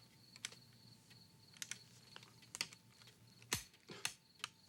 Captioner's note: gun clicking